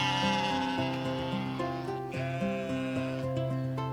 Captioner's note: sheep bleating